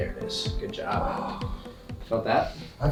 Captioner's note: patient groans